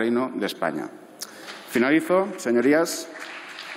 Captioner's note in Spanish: Aplausos